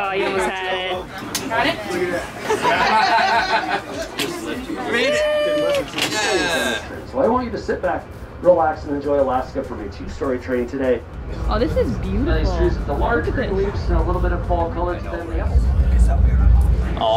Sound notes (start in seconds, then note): 3.4 laughter in background; 9.8 murmurs